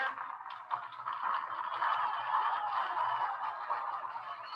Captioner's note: audience applauding